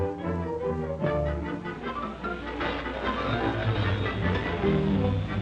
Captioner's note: rattling